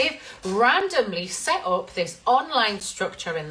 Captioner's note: none